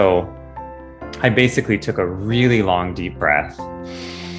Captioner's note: takes deep breath